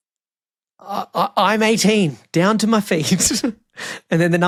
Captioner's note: laughs